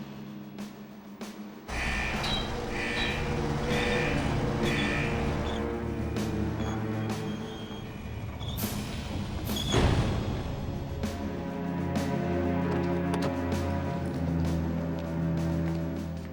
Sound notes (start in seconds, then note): 1.7 alarm rings